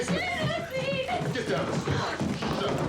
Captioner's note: sobbing